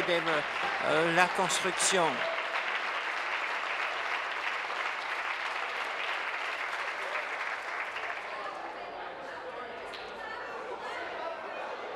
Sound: applause

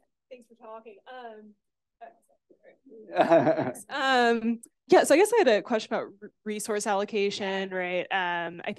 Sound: laughter

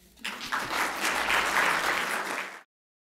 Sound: applause

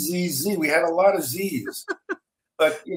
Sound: laughing

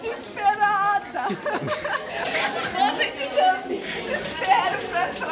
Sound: laughs

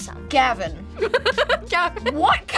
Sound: laughs

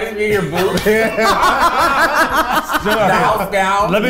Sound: everyone laughing

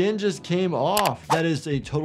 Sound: mouse clicks

